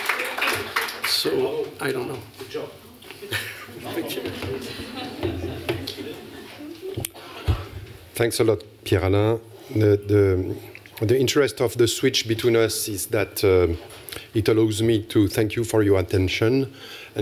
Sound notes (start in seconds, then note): 3.2 laughter